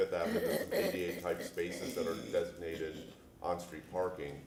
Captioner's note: laughter